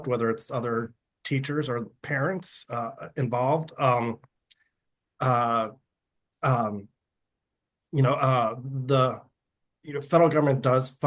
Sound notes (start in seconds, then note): none